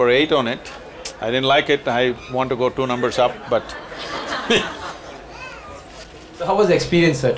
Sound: few laugh

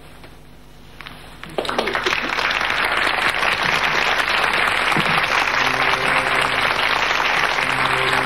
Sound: audience applauding

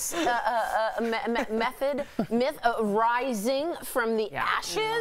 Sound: laughter

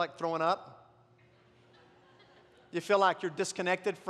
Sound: congregation laughs

